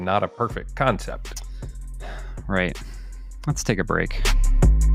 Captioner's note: sigh